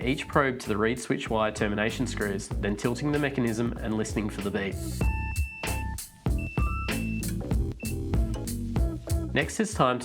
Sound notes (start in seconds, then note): 6.3 multimeter Beeps